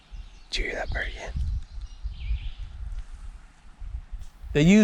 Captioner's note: whispering